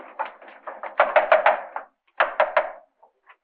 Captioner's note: knocking on door